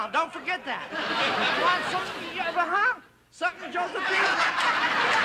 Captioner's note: stammers